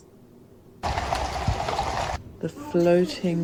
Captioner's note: loud hooves; distant voice